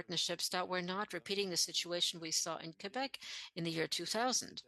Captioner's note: speaking French